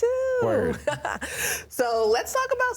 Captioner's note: laughs